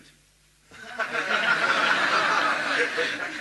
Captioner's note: laughter